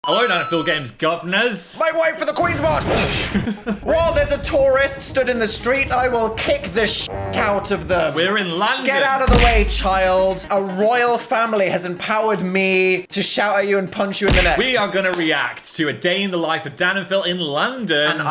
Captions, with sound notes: - Hello DanAndPhilGAMES governors! - Make way for the Queen's March! (imitates explosion) What, there's a tourist stood in the street? I will kick the (horn honks) out of them! - We're in London! - Get out of the way, child! A royal family has empowered me to shout at you and punch you in the neck. - We are gonna react to "A Day in the Life of Dan and Phil in London".